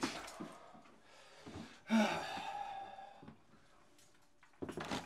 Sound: exhale, footsteps

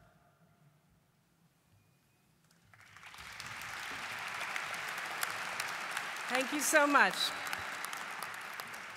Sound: applause

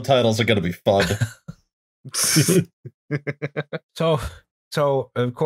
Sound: laughter

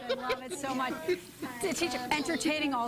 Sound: laughter

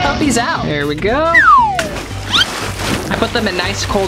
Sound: splashing

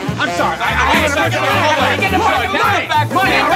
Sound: men yelling

